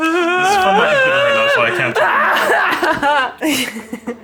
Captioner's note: screaming. ignoring